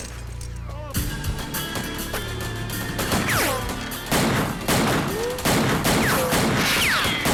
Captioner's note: slow music; guns firing